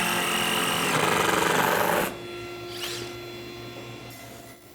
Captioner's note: drill whirring